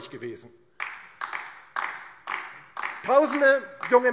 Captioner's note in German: Beifall DIE LINKE